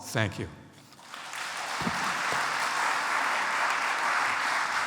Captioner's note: audience applauds